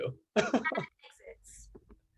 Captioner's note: Chad laughing